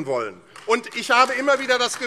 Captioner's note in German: Beifall AfD